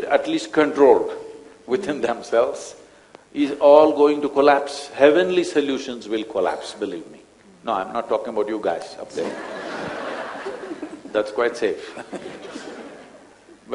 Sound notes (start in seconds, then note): 1.5 laughs; 9.1 laughter; 12.6 laughter